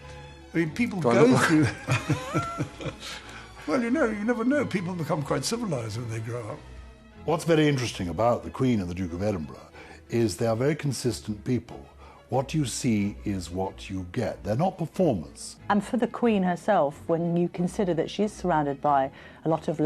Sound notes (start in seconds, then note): 1.9 voiceover; 3.2 laughing